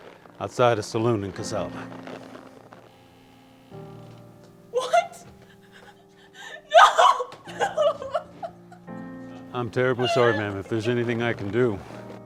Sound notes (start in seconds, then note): 2.6 melancholy piano music; 7.7 sobs